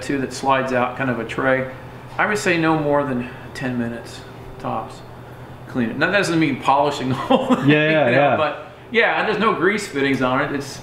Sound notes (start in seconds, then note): 7.1 laughing